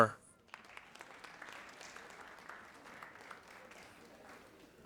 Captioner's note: audience applauding